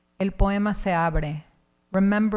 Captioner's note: speaking in Spanish